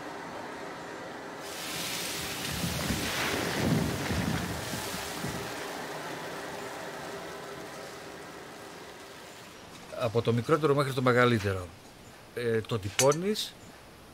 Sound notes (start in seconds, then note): 1.4 liquid sizzling; 10.0 speaking in Greek